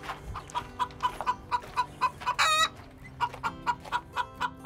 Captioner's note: chicken clucking